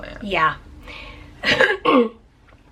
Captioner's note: clearing throat